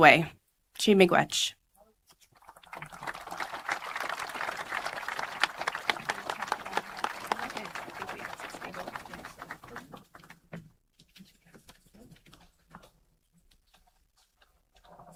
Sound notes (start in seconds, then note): 4.3 applause